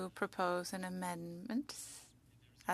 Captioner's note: speaking French